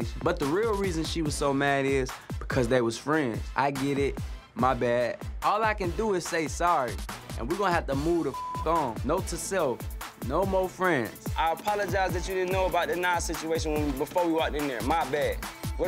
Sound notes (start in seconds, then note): 8.3 beep